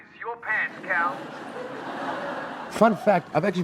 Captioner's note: audience laughing